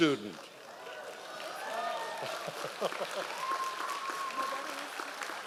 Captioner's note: members of the audience cheering